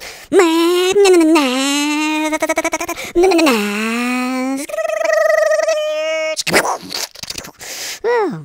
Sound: mimicking car sounds

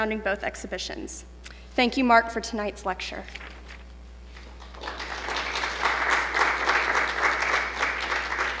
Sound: audience applause

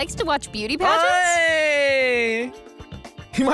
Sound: cheers

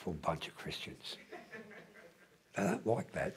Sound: laughter

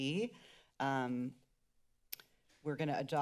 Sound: clicks tongue

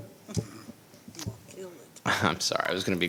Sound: speaking faintly

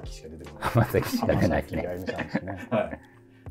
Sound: laughing

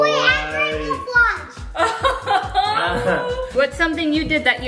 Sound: laughs

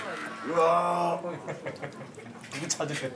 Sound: laughing

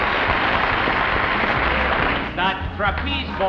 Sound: audience applauds

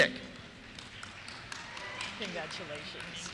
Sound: cheers

